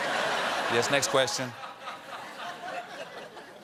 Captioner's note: laughter